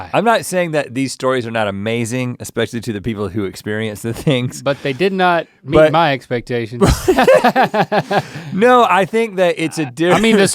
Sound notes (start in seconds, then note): 6.8 both chuckle